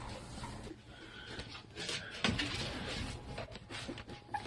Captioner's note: puppies rustle